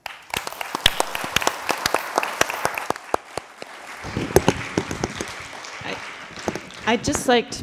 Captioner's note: applause